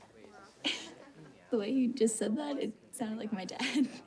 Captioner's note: chuckles